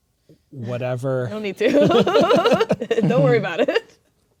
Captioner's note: laughing